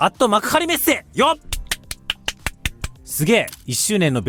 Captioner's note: applause